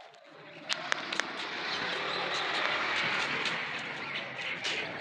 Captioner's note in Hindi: तालियां